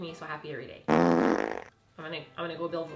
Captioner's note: fart sound effect